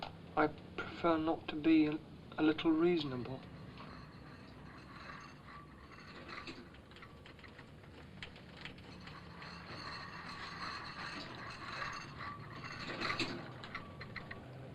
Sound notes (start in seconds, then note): 4.8 cart rattling